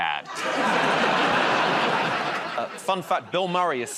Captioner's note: laughter